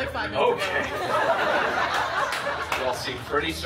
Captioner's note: guests laughing